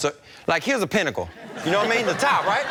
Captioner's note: audience laughs